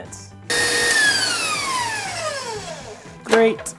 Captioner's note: appliance whirring